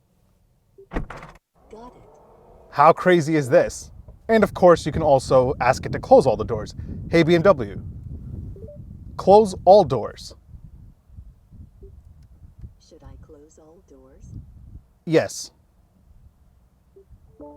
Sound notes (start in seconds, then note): 0.8 doors clicking